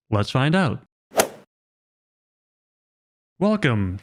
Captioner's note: golf ball hit sound effect